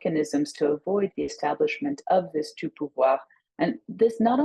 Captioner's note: speaks in French